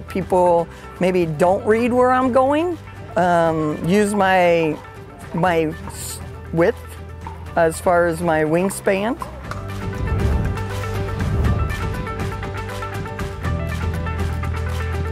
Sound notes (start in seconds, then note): 9.1 ball pops